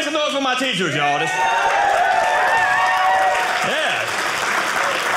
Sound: audience cheering

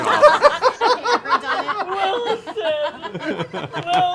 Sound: laughing

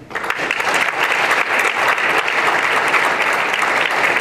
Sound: applause

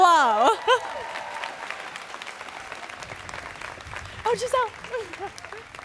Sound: students cheering

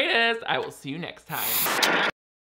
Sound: static crackles

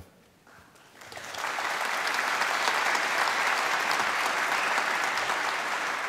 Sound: applause

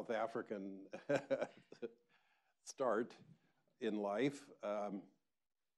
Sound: chuckles

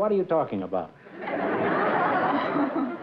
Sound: laughter

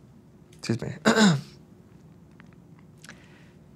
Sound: clears throat

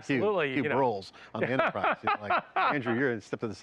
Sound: laughs

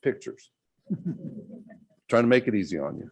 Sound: laughter

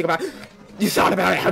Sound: le gasp

